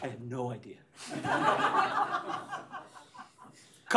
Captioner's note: laughter